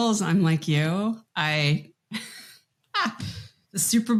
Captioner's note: laughs